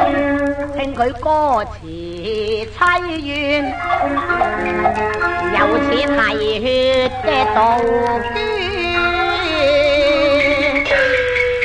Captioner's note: cuckoo